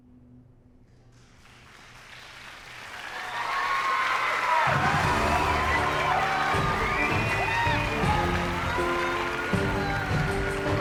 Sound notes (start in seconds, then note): 1.4 cheers and applause; 7.1 uplifting music playing